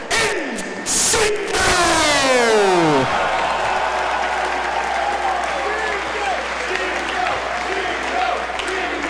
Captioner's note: applause